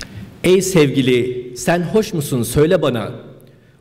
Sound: speaking turkish

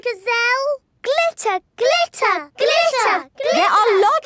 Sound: chanting

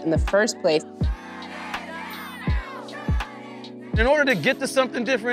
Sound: shouts from the crowd

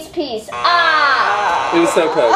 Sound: buzzer buzzing

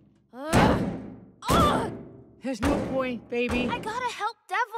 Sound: grunts

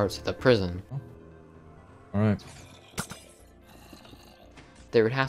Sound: zombie groans

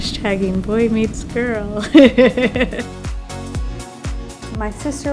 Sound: laughs

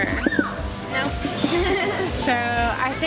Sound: giggles

